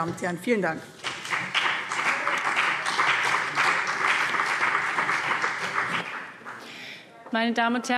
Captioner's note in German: Beifall BÜNDNIS 90/DIE GRÜNEN und CDU